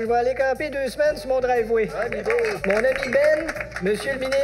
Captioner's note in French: Applaudissements